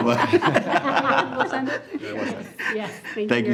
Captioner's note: group laughing